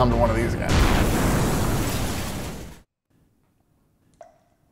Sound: explosion rumbles

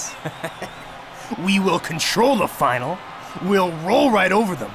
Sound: laughing

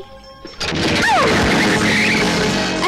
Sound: bike Engine Sound

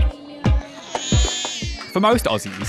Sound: baby cries

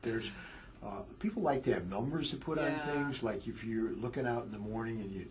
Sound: laugh

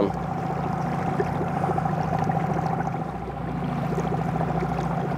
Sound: boat spluttering

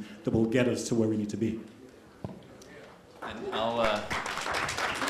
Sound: applause

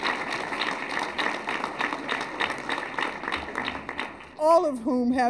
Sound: applause

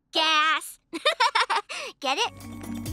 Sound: laughing

